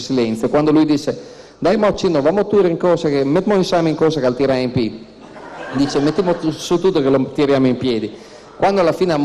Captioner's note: speaking dialect